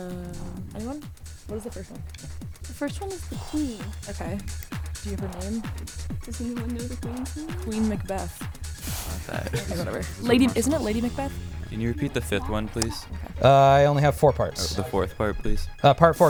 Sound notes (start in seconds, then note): 2.8 wispering